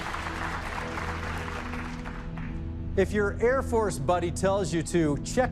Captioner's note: dramatic musical flourish; applause